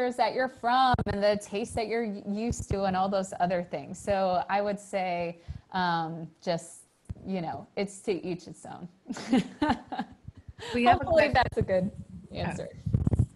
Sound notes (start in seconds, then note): 9.2 laughs